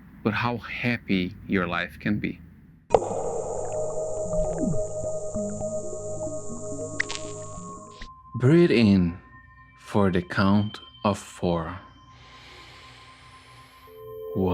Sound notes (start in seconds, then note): 2.9 water bubbling; 3.4 ethereal music; 12.4 gentle ethereal music